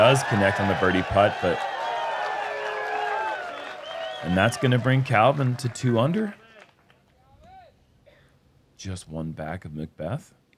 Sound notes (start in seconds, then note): 0.0 cheers